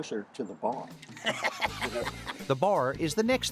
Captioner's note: laughing